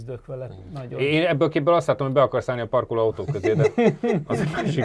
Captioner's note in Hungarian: nevetés